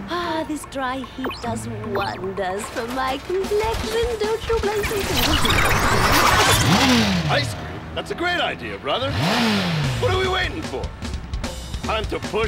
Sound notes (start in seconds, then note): 9.2 engine revs